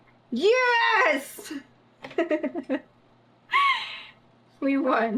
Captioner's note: laughs